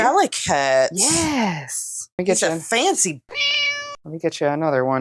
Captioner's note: meow